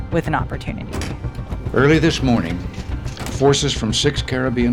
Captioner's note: soundbite of archived recording